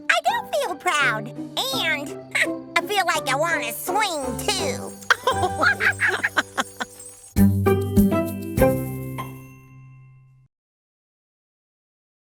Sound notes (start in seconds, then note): 4.9 laughing; 7.5 audio logo